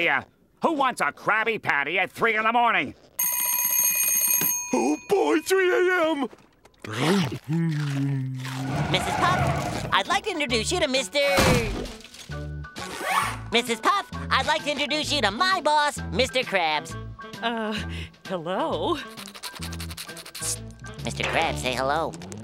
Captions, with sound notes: Who wants a Krabby Patty at 3:00 in the morning? [alarm ringing] Oh, boy! 3:00 A.M.! Mrs. Puff, I'd like to introduce you to Mr... Mrs. Puff, I'd like to introduce you to my boss, Mr. Krabs. Uh, hello. Psst! Mr. Krabs, say hello.